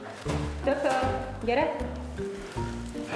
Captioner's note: keeper calling out to bear in Hungarian